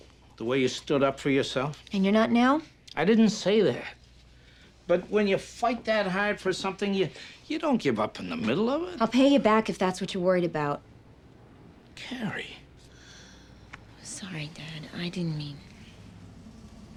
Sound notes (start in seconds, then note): 12.8 sighs